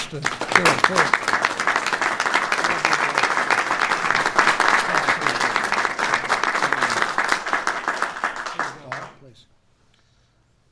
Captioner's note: applause